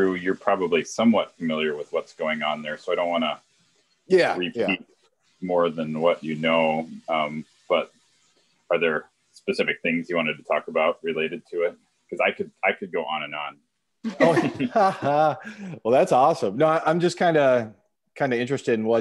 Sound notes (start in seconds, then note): 14.1 laughs